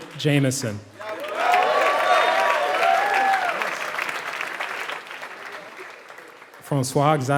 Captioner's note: applause